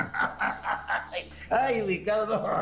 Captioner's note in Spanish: Risas